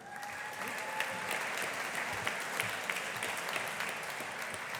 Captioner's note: audience applauding